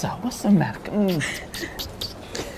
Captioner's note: kissing noises; laughter